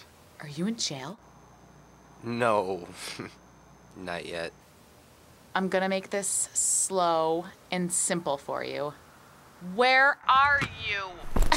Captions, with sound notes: Are you in jail? No. (Snorts) Not yet. I'm going to make this slow and simple for you... WHERE ARE YOU!